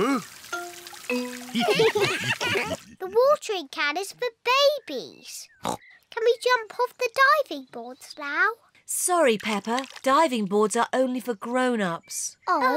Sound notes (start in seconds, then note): 1.5 all laugh; 5.6 oinks